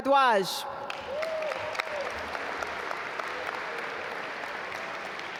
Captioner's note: audience applaud